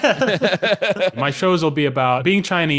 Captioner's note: both laugh